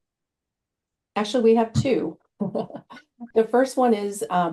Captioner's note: laughing